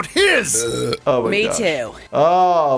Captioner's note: Pam burps